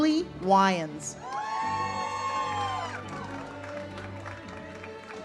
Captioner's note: audience cheers; uplifting music